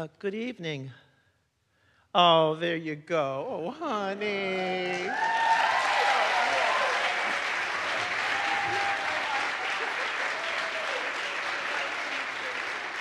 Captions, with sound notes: - Good evening. Oh, there you go, honey! (audience cheers) (audience applauds)